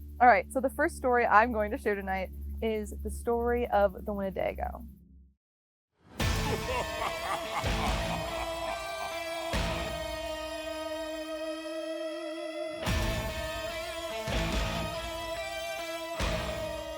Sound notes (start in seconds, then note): 6.2 tense music; 6.2 man laughing